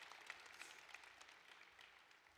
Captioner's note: cheering and applause